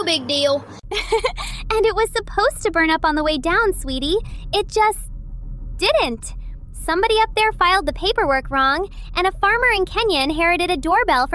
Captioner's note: laughs